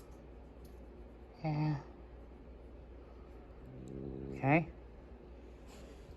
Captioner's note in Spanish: gruñe